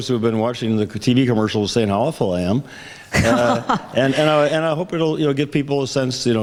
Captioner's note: laughs